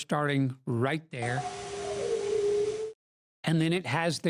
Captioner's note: howl with pitch changes